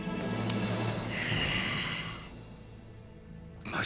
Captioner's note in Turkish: Nefes sesi